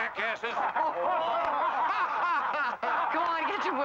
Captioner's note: men laughing